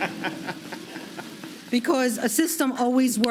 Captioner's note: laughter